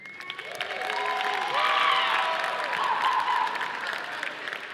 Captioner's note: audience applauding